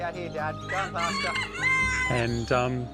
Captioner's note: rooster crows